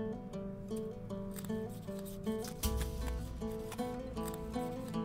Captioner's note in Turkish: Halat kesme sesi